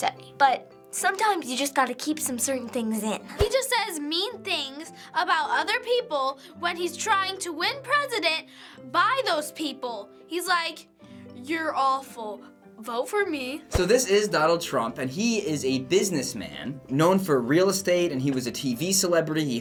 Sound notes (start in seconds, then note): 12.3 sweetly